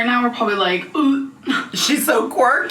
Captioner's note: gagging